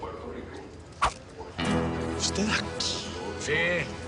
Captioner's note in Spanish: Voz por altoparlantes